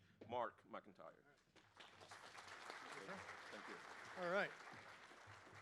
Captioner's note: applause